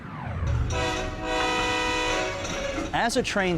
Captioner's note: train horn blaring